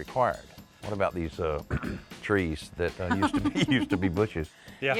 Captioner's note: chuckles